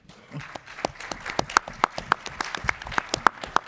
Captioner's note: audience applauds